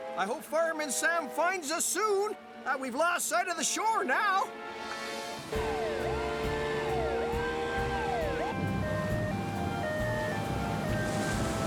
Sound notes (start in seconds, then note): 5.5 sirens Wailing